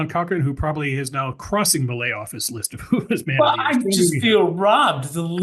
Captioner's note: laugh